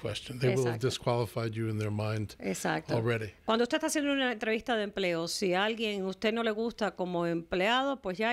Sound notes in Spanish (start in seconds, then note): 2.5 Hablando ingl\s